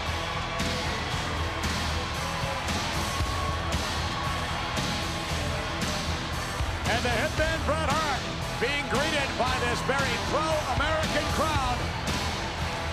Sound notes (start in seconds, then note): 1.3 crowd cheering; 1.3 upbeat rock music continues